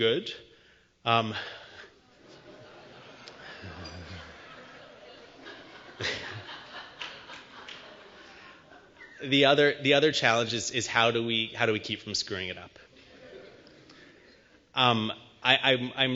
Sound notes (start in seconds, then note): 2.1 laughter